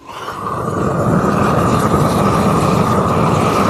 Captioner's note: fire blazes